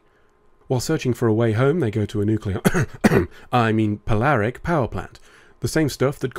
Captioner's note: cough